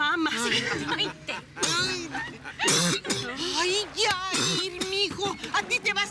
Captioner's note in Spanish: Risas